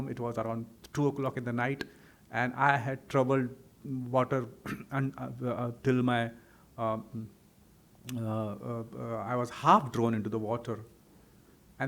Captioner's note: clears throat